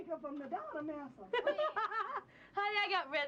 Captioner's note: laughs